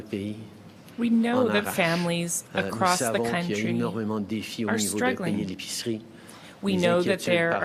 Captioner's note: speaking French